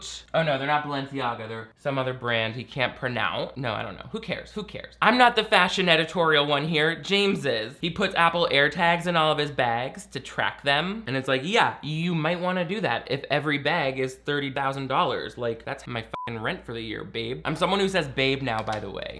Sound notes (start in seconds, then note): 16.1 beeps